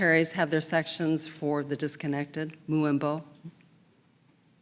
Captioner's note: speaking in Japanese